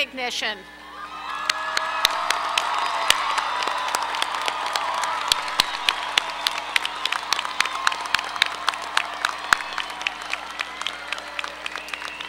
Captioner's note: applause